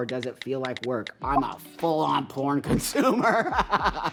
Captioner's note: laughing